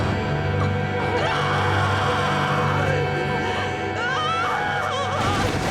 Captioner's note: screaming